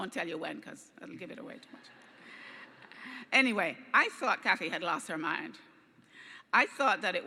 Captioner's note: laughing